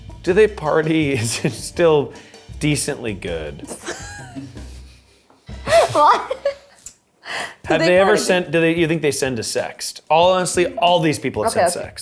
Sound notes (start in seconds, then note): 3.7 laughs